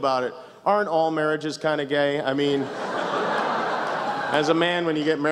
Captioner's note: laughter